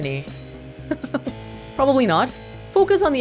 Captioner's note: chuckles